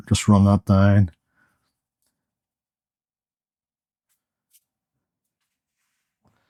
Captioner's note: silence